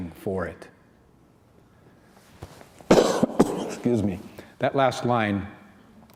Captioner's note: coughs